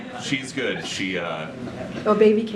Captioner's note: laughs